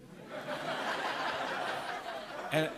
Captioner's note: laughter